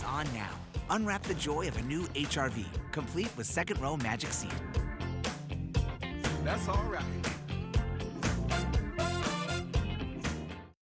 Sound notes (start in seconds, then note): none